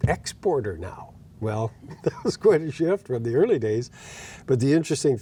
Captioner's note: laughing